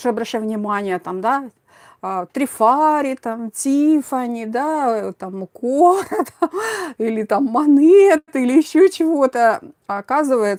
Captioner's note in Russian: смех